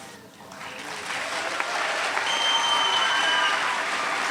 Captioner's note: cheering